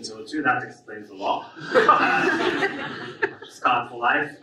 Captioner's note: audience laughs